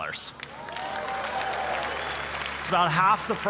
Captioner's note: applause